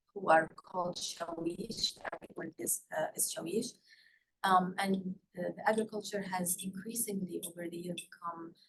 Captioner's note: non-english